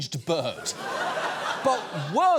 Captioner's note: audience laughs